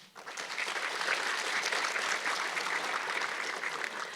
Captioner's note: audience clapping